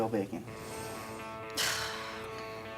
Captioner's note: sighs